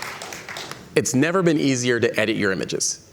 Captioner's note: cheers and Applause